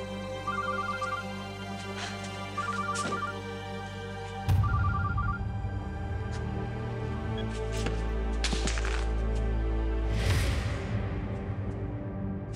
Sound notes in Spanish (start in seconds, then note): 0.4 suena el celular